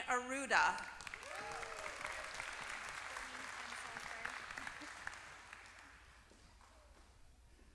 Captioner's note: applause